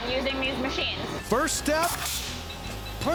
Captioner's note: grinding, cutting sound